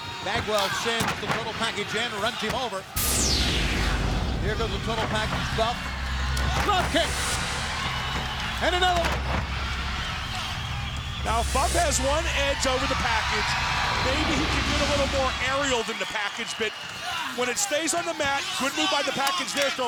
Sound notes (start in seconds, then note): 3.3 logo whooshing; 7.1 crowd cheering; 9.9 crowd cheering